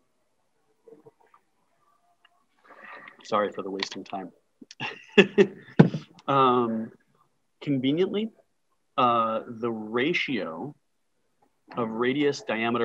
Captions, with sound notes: Sorry for the wasting time. (laughing) Conveniently the ratio of radius, diameter and tooth number